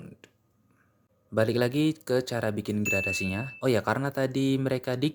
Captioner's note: bell sound